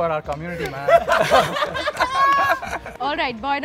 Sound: laughter

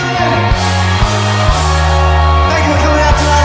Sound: audience cheers

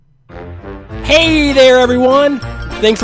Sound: voiceover

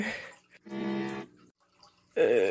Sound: glitch noises

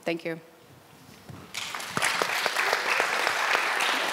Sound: applause

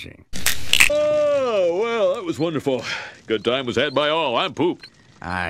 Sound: yawns

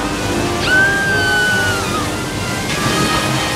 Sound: screaming

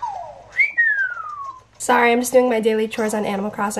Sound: whistles

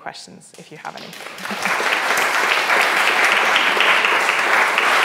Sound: audience clapping

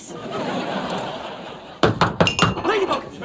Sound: knocking

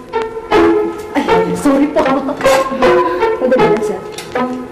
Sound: laughs

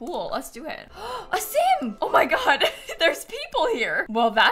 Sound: gasps

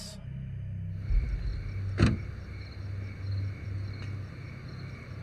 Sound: insects chirping

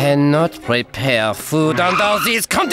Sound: nervous laugh

